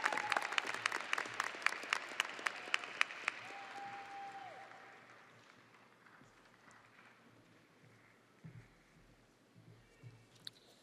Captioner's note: audience applauding and cheering